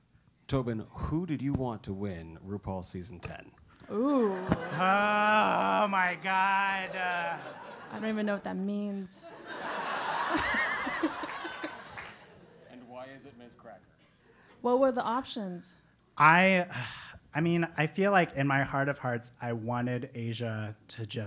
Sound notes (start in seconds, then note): 3.8 laugh